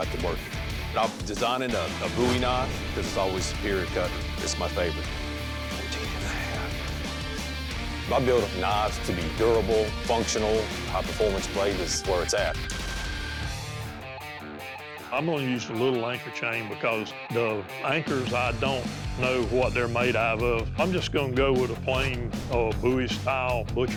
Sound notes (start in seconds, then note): 4.8 whispers; 12.6 rock music playing